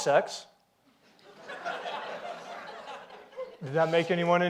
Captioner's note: audience laughs